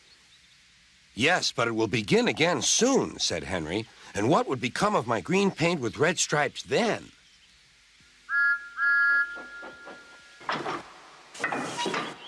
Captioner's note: Thomas whistles and buffers up to Henry's train